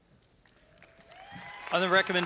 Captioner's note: audience applauding and cheering